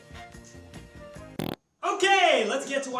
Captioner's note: fart sound